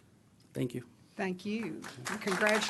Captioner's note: applause